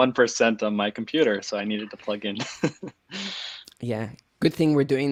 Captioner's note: laughing